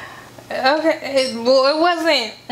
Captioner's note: stutters